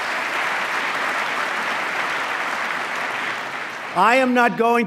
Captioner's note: applause